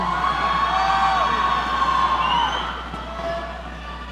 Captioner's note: audience cheering